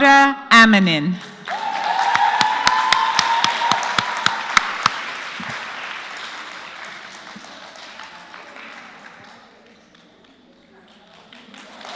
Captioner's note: applause